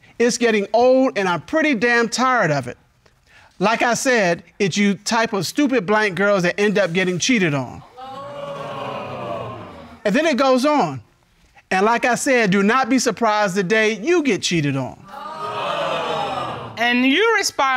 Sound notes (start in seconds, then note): 7.8 audience groaning; 15.1 audience gasping